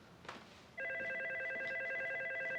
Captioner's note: telephone ringing